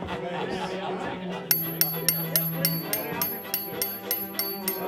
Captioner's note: glass banging